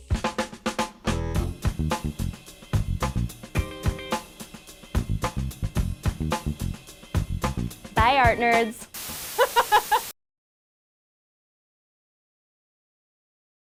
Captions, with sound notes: (upbeat jazzy music) Bye, art nerds. (laughs)